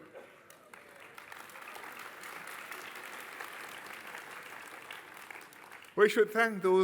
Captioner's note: applause